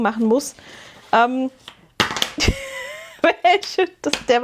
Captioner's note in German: gelächter